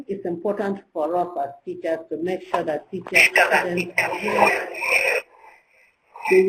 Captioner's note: electronic interference